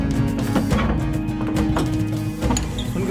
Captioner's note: door Opens